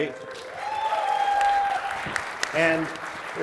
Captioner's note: applause